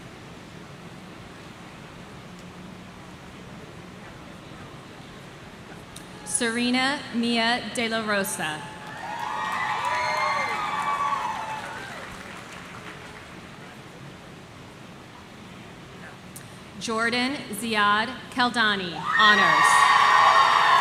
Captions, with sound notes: Serena Mia De La Rosa. (audience cheering) (audience clapping) Jordan Ziad Kaldani, Honors.